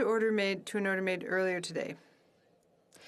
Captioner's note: speaking in FRENCH